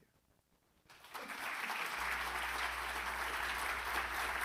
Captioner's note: audience clapping